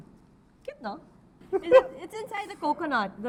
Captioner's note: chuckles